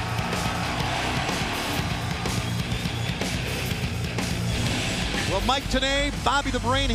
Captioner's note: crowd cheering